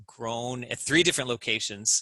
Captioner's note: none